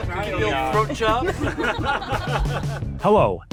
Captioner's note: laughter